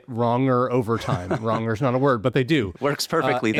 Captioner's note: laughs